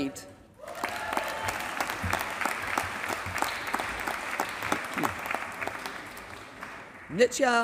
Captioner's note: applause